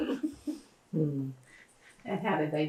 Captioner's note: laughter